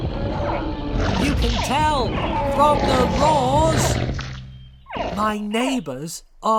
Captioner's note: dinosaurs roar and squeak